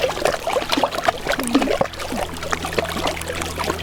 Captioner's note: laughs